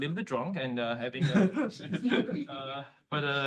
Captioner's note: chuckling